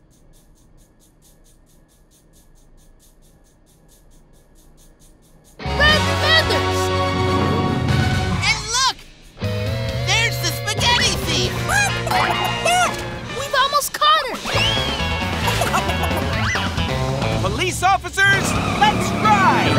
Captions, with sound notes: Red feathers! And look, there's the spaghetti thief! [clucking] We've almost caught her! [clucking] Police officers, let's ride!